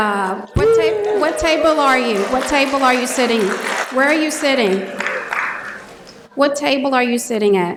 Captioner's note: applause